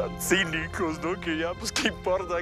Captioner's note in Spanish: solloza